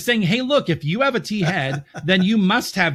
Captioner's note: laughs